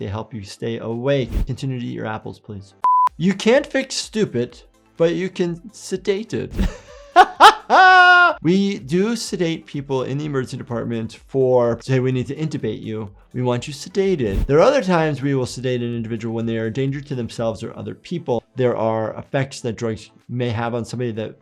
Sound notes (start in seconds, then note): 6.6 laughs